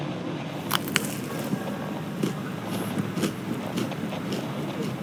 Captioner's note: eating fx